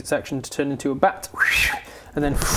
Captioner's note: bat flying sounds